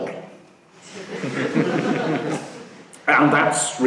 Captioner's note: laughing